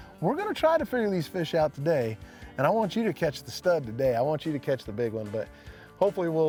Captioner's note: none